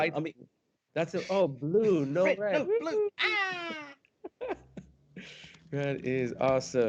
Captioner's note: laughs